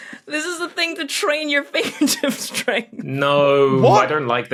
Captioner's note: giggles